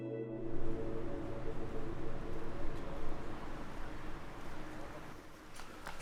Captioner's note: gentle music fades; wind gently whooshing